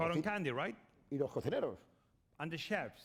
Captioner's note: speaking spanish